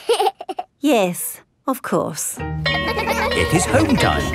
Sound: giggles; school bell rings

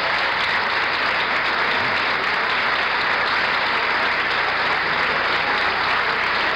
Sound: applause continues

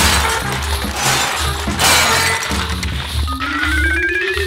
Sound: cartoon beeping

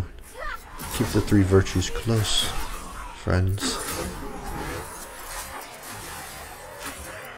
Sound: terrible death sounds

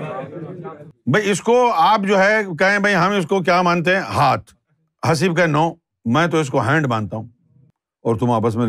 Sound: in Urdu

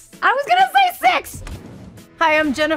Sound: screen whooshing

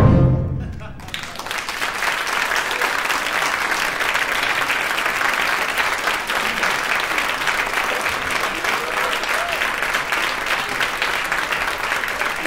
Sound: applause

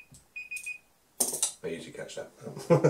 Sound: laughs

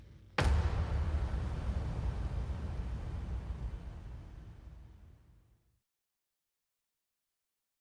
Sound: distant Boom

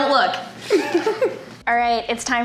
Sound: laughs

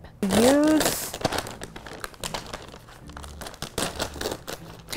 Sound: opening bag

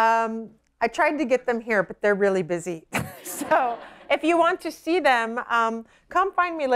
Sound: laughter

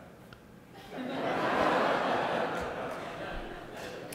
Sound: audience laughing

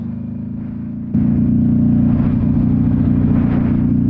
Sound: engine roaring

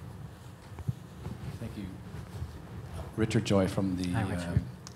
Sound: voiceover

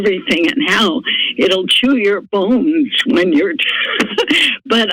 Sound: laughter

